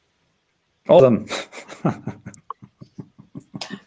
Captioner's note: laughing